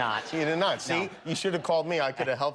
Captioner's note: laughter